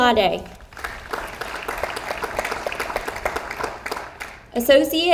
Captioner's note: audience applauds